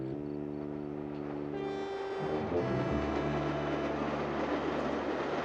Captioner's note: train whistle blows